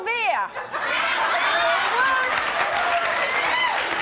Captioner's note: audience laughing